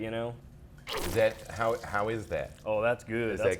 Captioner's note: goo squirts